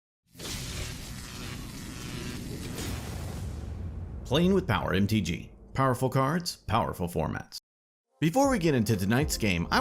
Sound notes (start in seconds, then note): 0.3 zapping electricity; 0.4 thundering explosion